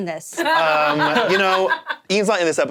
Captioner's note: laughing